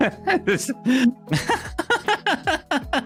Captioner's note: laughs